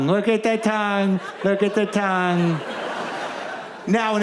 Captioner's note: audience laughs